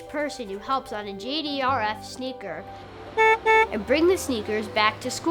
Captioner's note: bus horn